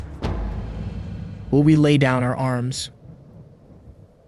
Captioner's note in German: Stimme liest die Notiz vor